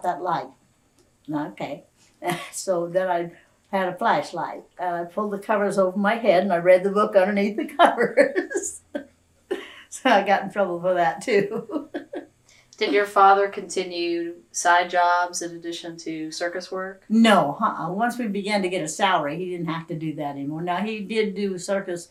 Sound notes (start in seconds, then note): 11.2 laughs